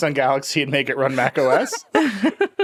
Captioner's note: laughing